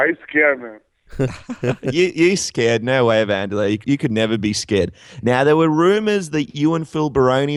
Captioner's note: laughs